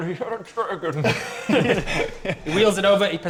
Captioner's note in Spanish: Risas